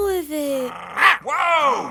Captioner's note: barking